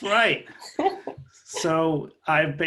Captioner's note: laughter